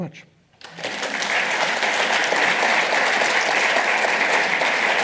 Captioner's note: audience applauds